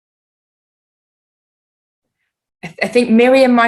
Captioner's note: silence